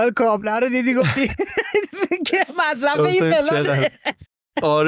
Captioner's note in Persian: خنده